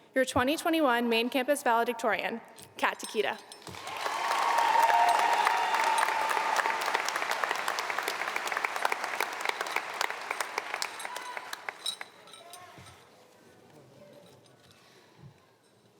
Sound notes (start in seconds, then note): 3.7 audience cheering